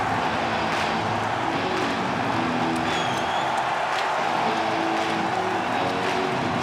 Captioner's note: drumbeat music; crowd cheering; upbeat rock music